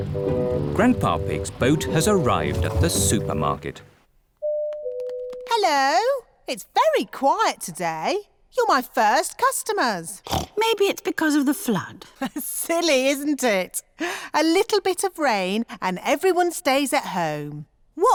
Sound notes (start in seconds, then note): 10.2 snorts; 12.6 laughs